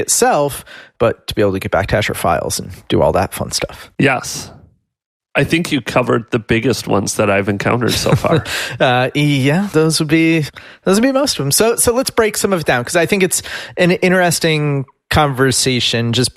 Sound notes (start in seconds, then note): 9.1 laughs